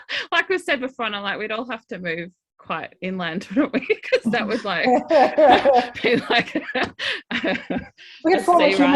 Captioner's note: laughs